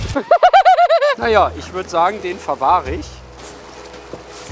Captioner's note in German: lacht